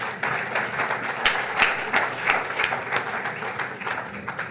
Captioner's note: audience applauds